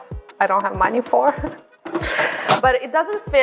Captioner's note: laughs